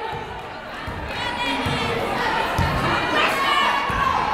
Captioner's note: yelling